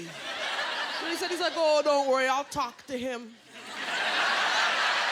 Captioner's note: laughter